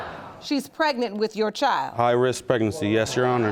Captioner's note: audience gasps